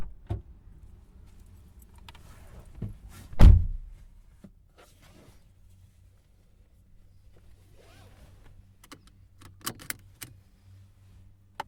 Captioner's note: car door opens, closes. Car starts and pulls away on gravel